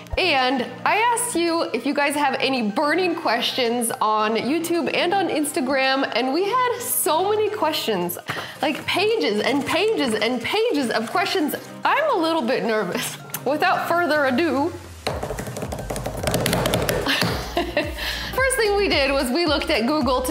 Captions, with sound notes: And, I asked you if you guys have any burning questions on YouTube and on Instagram. And we had so many questions. Like pages and pages and pages of questions. I'm a little bit nervous. Without further ado. (drumming fingers) (laughing)First thing we did was, we looked at Google